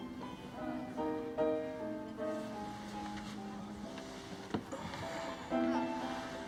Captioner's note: gentle music; patrons chatter